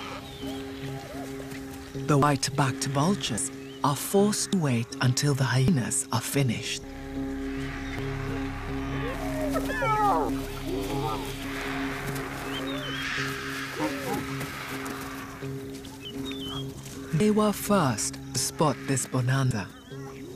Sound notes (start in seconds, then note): 9.0 hyenas yapping